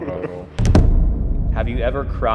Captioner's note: laughter; intense boom